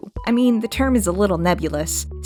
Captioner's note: none